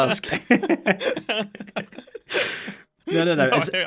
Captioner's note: both laugh